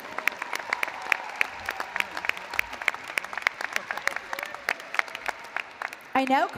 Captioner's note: applause